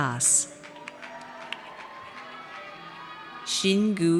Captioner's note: audience cheers